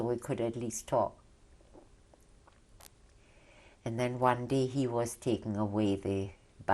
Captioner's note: pauses for 3 seconds